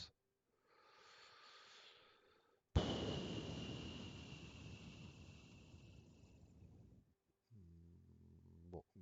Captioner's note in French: soupir